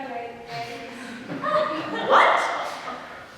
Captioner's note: audience laughs